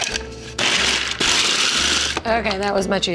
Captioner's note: mechanical whirring